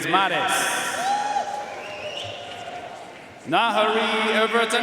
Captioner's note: audience cheering and applauding